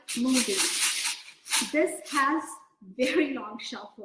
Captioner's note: beans rattling